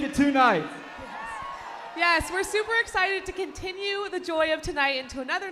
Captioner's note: cheers